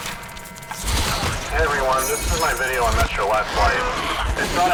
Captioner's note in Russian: громкие помехи; голос звучит так, словно записывался с орбиты